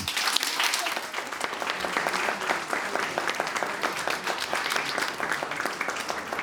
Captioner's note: applauding